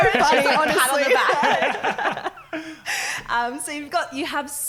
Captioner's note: laughing